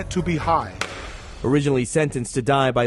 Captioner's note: gavel banging